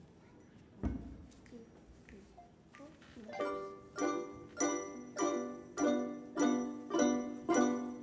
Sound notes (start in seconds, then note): 1.6 speaking softly; 3.3 soft whimsical music